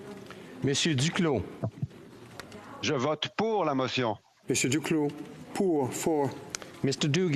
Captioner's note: speaking FRENCH